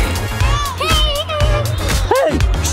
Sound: laughs; yelps; yells

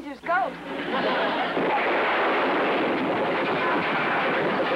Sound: explosion; rattling sounds

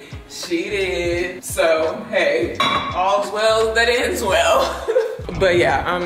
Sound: laughing

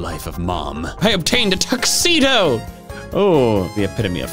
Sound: exclaims

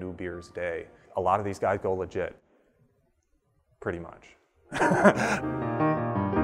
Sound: laughs

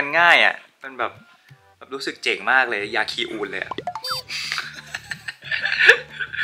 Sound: laugh

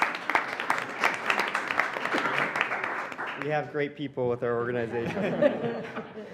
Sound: applause

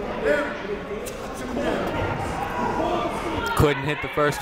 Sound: shouting

